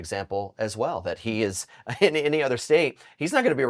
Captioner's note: chuckles